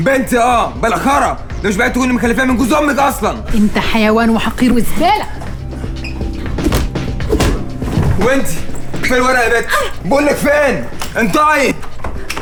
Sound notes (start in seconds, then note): 6.5 punch hit